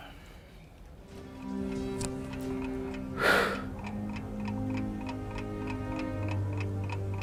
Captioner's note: dramatic music; clock ticking